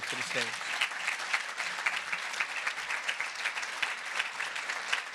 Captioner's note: audience applauding